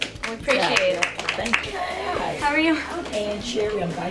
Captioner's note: clapping